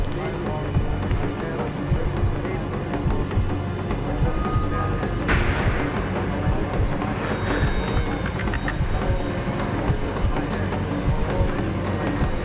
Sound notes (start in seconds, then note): 0.3 intense music; 3.8 door creaking; 5.3 door slamming